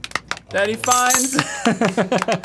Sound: clapping

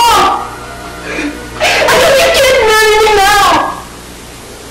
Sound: cries

